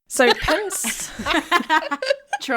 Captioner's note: laughing